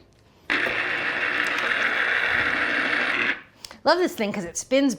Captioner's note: juicer whirring